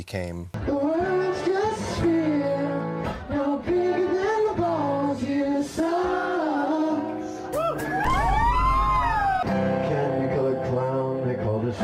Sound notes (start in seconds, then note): 7.6 cheering